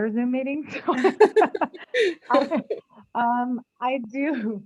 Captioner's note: both laugh